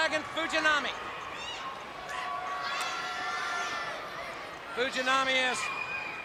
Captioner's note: crowd chatter